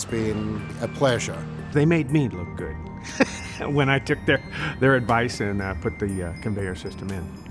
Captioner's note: laughs